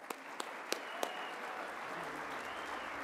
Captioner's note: applause